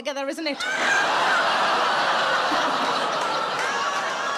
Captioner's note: audience laughing